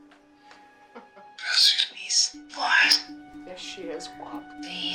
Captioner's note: box whispers